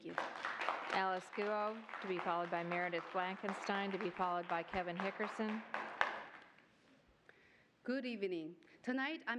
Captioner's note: applause